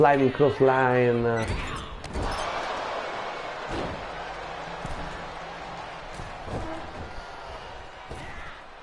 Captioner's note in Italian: Applauso